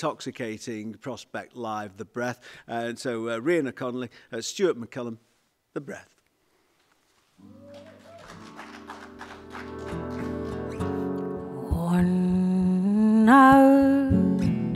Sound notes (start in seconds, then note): 7.5 applause